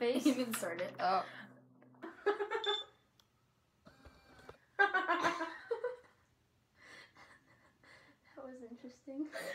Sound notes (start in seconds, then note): 4.8 both laugh